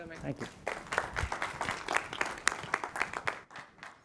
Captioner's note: applause